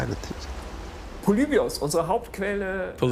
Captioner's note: speaks in foreign language